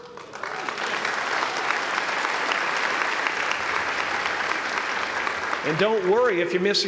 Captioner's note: applause